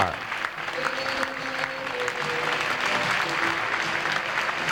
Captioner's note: crowd applauds